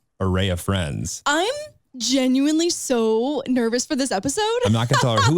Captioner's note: laughs